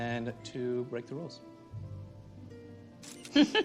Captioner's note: shutter clicking